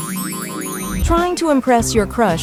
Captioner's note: mellow ethereal music; unicorns boinging